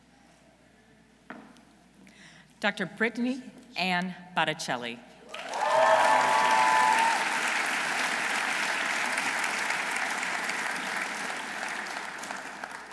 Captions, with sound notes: Dr. Brittany Ann Botticelli. -(audience cheering) -(audience applauding)